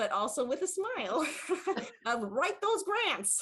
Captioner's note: laughs